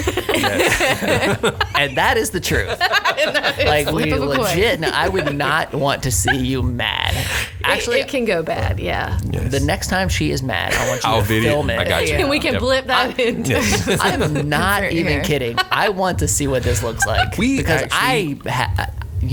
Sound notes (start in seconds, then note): 0.0 group laughing; 13.9 laughs